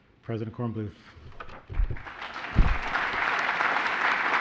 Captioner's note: applause